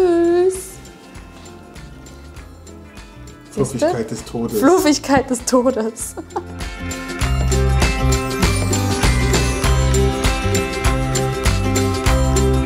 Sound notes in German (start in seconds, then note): 5.9 lacht